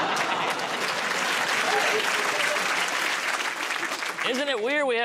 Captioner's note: laughter; applause